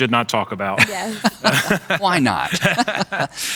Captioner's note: laughing